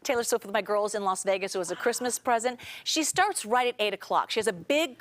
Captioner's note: laughter